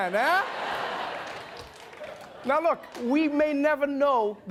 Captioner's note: laughter